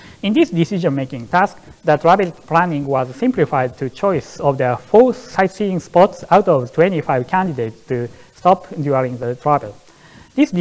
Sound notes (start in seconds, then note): none